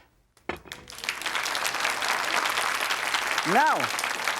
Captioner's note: audience claps